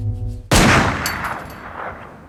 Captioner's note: gunshot